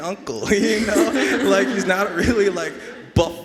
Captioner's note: everyone laughing